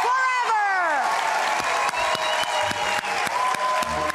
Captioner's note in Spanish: Aplausos